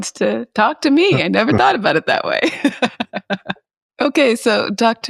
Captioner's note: chuckles